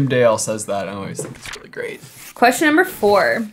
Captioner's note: letters shuffling; paper shuffling